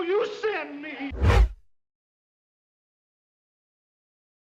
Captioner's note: screen swooshes